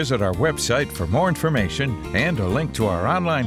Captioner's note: voiceover